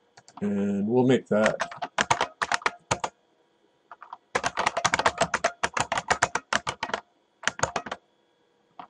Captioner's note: typing